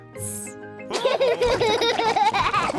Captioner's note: all laughing